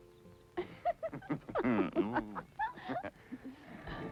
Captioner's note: giggling